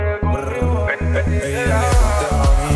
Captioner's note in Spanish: brr